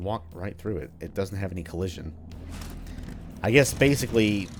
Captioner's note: engine starts